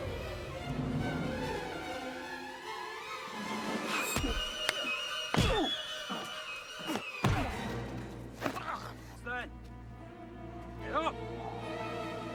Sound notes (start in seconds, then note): 6.5 men grunt